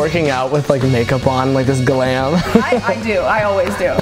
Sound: chuckles

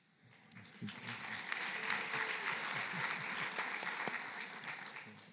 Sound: applause

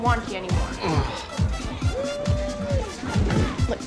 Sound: groans

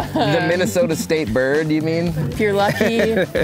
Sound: laughing

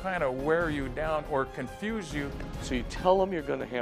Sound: none

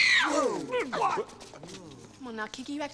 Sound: <i> screams</i>

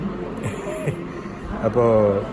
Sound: laughs

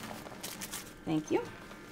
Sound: tape ripping

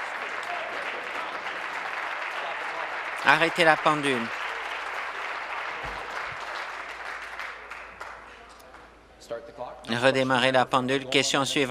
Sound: applause

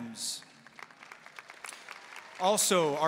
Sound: audience applauding

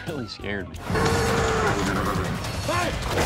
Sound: horse neighing

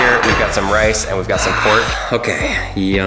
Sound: plate clanking; deep exhale

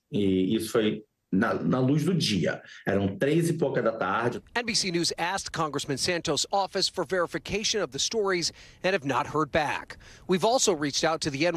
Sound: speaking non-english

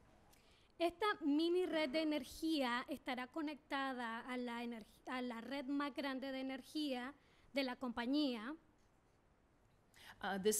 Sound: speaking spanish

